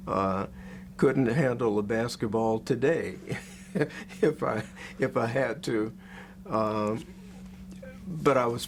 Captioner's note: laughs